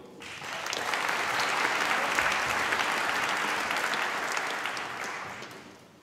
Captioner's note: applause